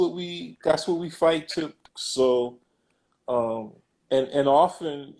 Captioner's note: glitch